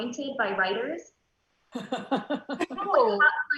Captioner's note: loud laughs